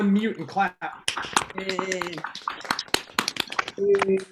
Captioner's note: applause